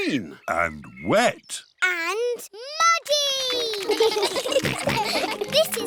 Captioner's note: children giggle